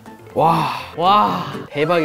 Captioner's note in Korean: 감탄